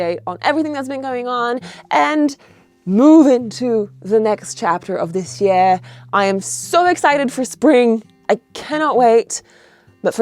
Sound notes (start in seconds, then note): none